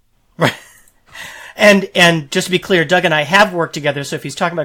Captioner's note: laughing